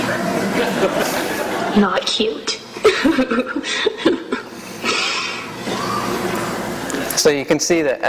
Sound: laughs

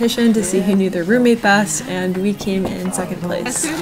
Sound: knocking

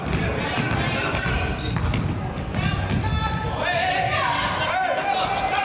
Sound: coaches yell

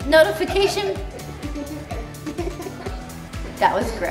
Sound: laughs

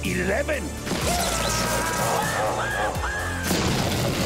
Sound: screaming

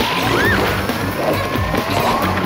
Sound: screaming; dramatic music

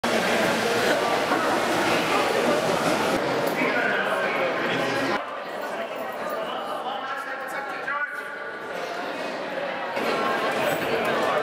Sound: crowd noise

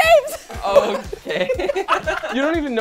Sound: giggles

